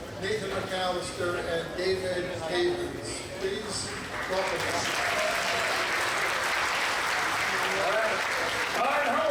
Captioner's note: audience applause